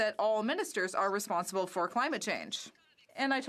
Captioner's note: speaking French